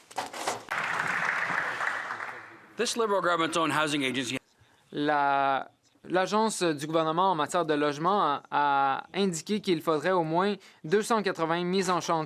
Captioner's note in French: voix de l'interprète